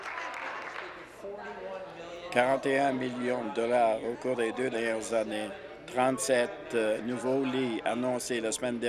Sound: applause

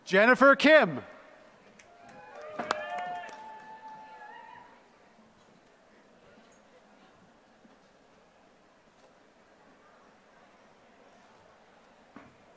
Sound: applause

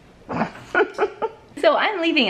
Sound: laughing

